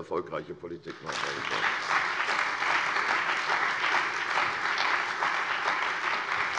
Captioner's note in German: Beifall bei der CDU und dem BÜNDNIS 90/DIE GRÜNEN